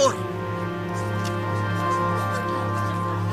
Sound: indistinct chattering

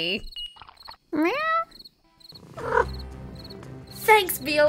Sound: meowing

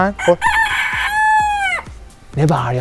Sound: crows

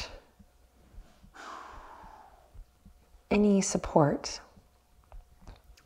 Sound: exhales deeply

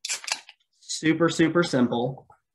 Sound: can cracks open

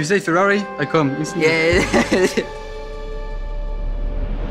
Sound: laughs

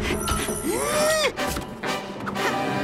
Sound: gasping

